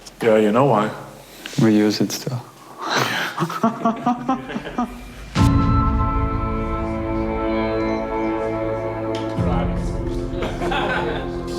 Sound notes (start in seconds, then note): 2.9 laughs; 10.3 laughter